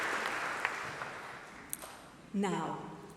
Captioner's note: applause